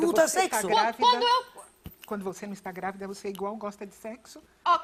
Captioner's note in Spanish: hablan en portugués